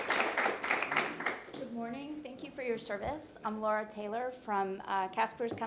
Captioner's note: applause